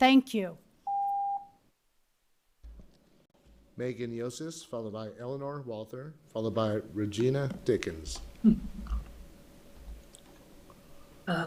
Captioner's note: loud beep